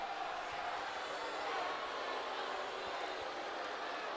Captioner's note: audience cheering